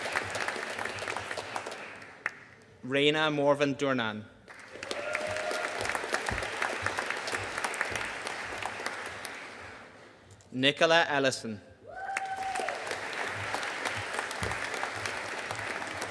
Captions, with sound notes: Raina Morven Durnan. (AUDIENCE CHEERING AND APPLAUDING) Nichola Ellison. (AUDIENCE CHEERING AND APPLAUDING)